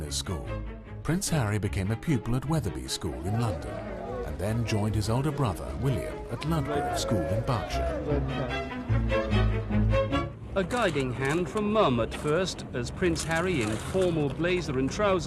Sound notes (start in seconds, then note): 8.5 engergetic music; 10.6 voiceover